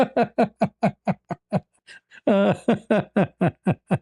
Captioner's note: ketawa